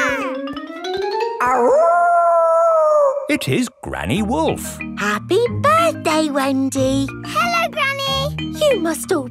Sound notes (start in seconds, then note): 0.0 kids yelling; 1.4 howling